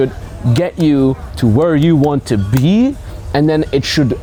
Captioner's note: hands clapping